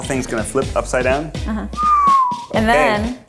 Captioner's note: whistles